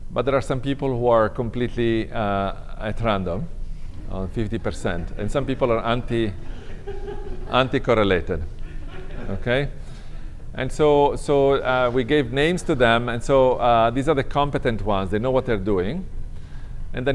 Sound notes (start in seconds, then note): 6.2 laughter